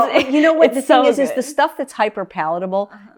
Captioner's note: laughs